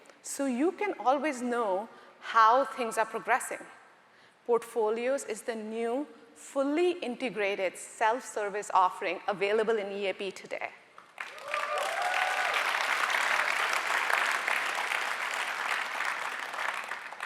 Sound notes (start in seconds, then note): 11.1 audience cheering and applauding